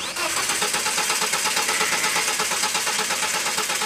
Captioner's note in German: Motor startet nicht